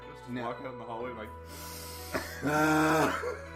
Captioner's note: deep Inhale